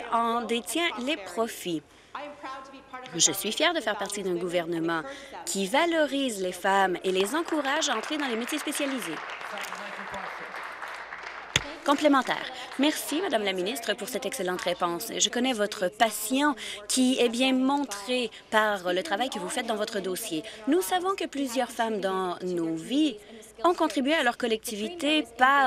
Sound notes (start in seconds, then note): 11.9 applause